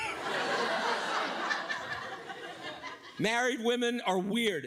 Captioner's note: audience laughs